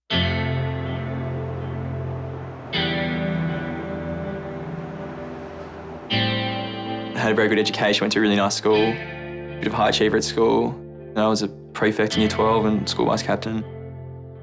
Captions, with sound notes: (slow guitar music) (Voiceover) I had a very good education, I went to a really nice school. A bit of a high achiever at school. I was a prefect in year 12 and school vice captain.